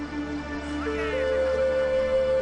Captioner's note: people chattering; gentle music continues